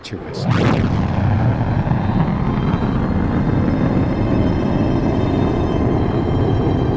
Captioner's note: sound booms, rocket roaring